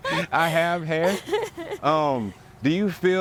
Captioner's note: laughs